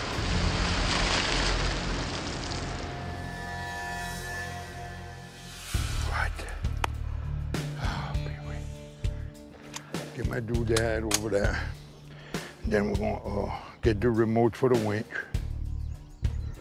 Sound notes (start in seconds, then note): 7.6 sighs